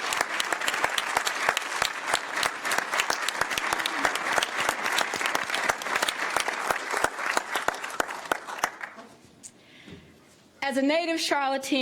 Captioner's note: applause